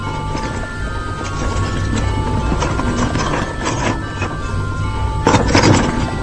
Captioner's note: elevator rattles; elevator rattles loudly